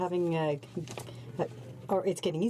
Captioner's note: speaking in french